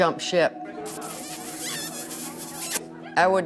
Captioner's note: Smooch